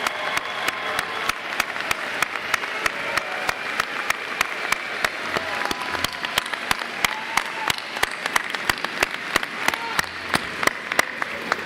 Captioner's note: applause